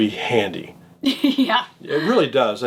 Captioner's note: laughs